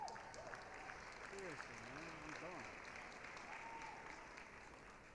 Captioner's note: applause, cheering